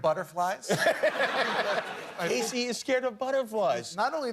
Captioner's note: laughter